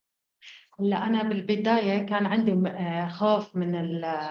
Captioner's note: speaking arabic